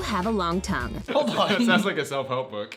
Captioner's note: laughs